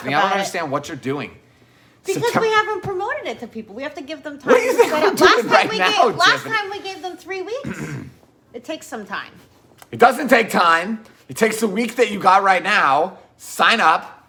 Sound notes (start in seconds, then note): 7.6 clears throat